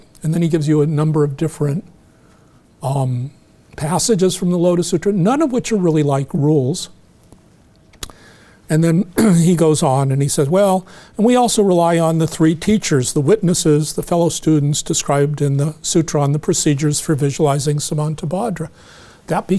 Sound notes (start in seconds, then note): 9.1 clears throat